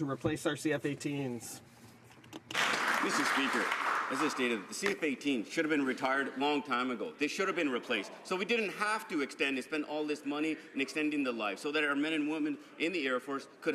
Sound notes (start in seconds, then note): 5.4 some Applause